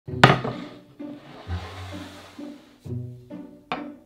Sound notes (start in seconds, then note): 0.0 quirky music playing throughout video in background; 0.2 board sliding